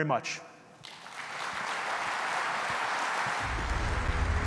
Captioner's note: audience applauding; dramatic music